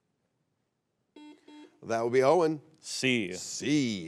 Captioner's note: buzzer beeps